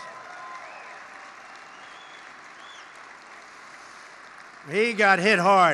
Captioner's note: applause